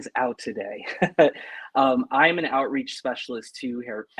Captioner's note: laughter